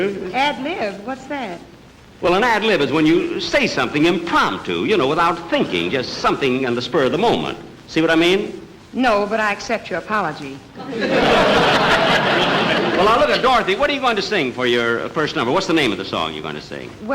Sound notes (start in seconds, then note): 10.8 audience Laughing